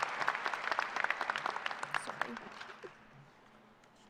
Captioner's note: applause